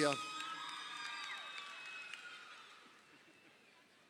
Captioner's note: crowd cheering